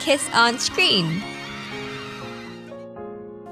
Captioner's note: ahhhhhhhhhh